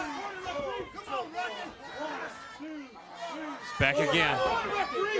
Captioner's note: crowd chatter